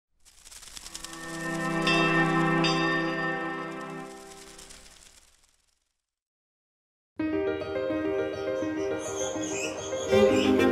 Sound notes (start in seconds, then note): 0.4 gentle music; 2.4 bell clanging; 7.2 inspirational music